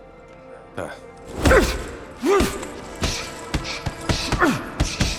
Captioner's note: grunting